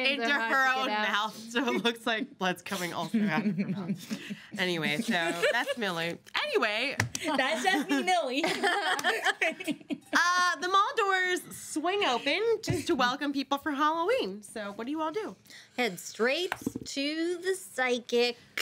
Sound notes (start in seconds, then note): 7.3 girls laughing